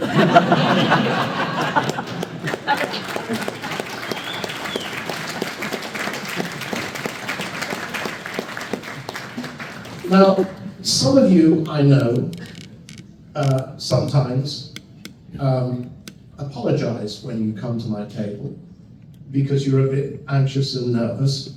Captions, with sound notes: [laughter] [applause] Now, some of you, I know, sometimes, apologize when you come to my table, because you're a bit anxious and nervous,